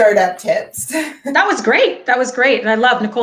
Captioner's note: laughing